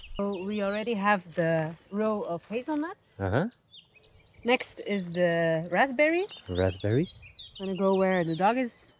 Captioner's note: raspberries